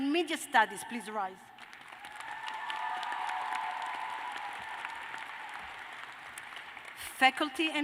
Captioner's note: cheers and applause